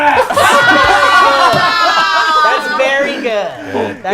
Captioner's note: group laughs